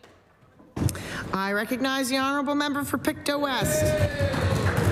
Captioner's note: applause